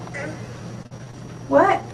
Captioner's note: grunting